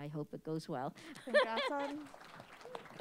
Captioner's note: chuckles; applause